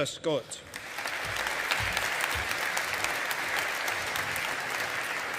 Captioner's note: audience applauding